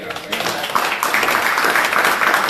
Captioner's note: applause